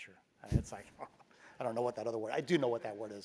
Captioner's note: laugh